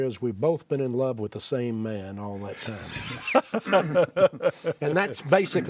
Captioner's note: laughs